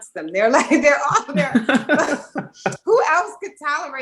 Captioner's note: laughs